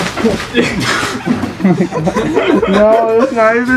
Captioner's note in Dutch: Gelach